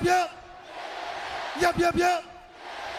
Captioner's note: crowd cheering